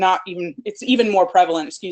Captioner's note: murmurs